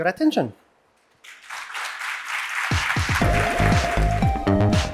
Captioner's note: applause